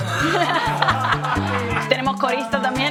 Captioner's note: laughter